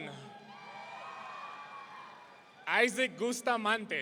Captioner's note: audience cheering